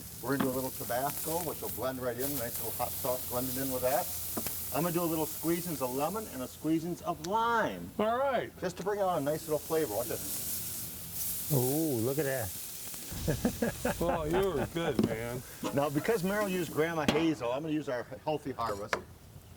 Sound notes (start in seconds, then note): 10.3 sizzling; 13.1 laughter